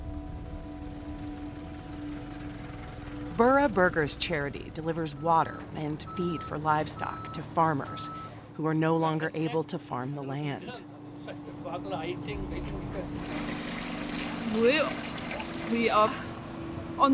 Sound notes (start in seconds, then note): 10.8 people talking in background, tap squeaking